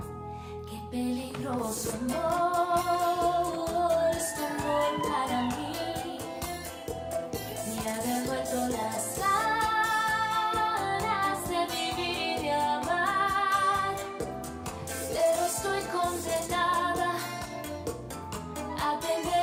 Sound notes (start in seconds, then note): 4.0 audience cheering